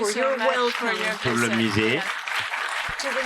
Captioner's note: speaking french